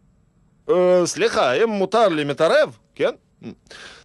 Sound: heavy russian accent

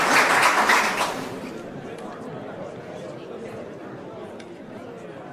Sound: audience chatter

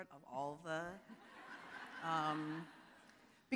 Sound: audience laughing

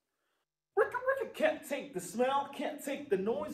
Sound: imitating record scratch

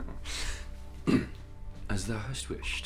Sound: chuckling; clears throat

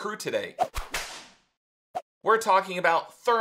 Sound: whip hits

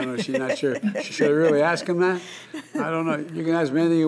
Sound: laughter

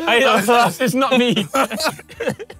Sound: all laughing

